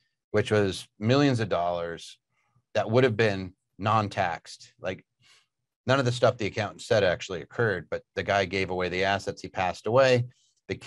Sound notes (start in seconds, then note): none